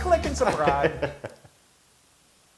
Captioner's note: laugh